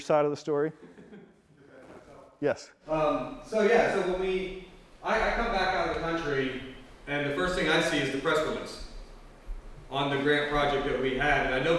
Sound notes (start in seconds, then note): 0.8 laughs; 2.0 voice muffled